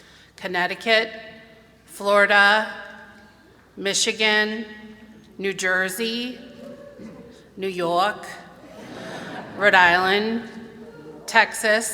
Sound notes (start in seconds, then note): 7.3 new york accent; 8.4 laughter